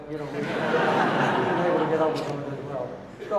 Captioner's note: audience laughing